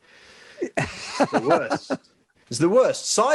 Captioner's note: laughing